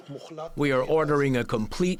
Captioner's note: through translator